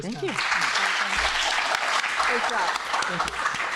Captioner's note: applause